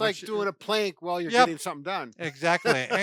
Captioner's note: laughs